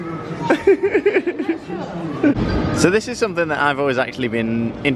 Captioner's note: laughter